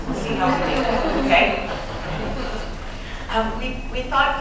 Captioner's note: laughter and murmurs